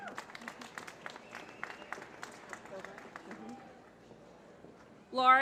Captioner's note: applause